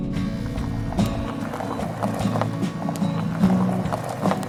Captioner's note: tires rumble